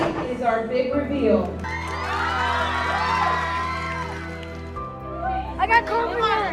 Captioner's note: cheers and applause